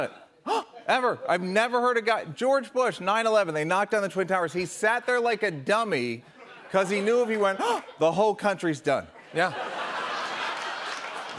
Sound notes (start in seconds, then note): 0.4 gasps; 7.6 gasps; 9.2 laughter